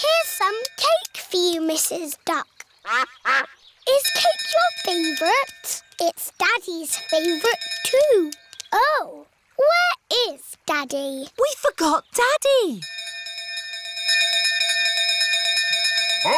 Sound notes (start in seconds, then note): 2.8 quacking; 6.9 bell dinging; 12.8 bell continues dinging